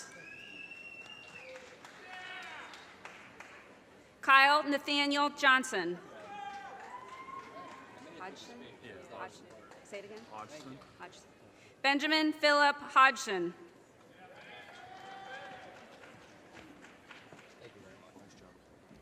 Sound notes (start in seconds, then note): 0.5 audience cheers and applause; 6.1 audience cheers and applause; 14.3 audience cheers and applause